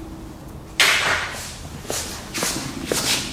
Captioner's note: marker clatters; footsteps patter